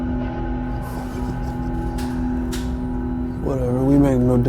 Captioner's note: Jack laughing